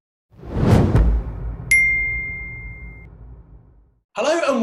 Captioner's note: air whooshes; bell dings